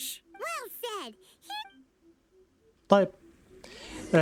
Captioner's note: chirps